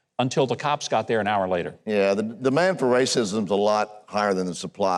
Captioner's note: none